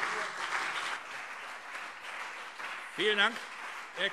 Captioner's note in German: Beifall CDU und BÜNDNIS 90/DIE GRÜNEN